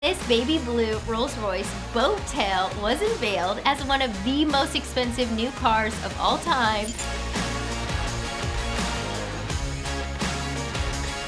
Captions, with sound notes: - This baby-blue, Rolls-Royce Boat Tail was unveiled as one of the most expensive new cars of all-time. (electronic beeping) (rhythmic rock music)